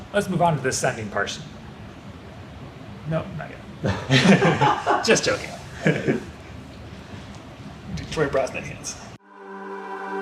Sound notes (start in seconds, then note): 3.8 laughing; 9.2 energetic music